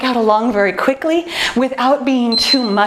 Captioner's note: timer beeps